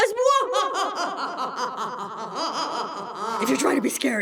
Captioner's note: monstrous laugh!